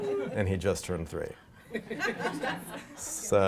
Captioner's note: laughing